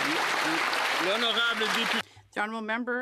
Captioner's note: speaking Alternate Language; some Applause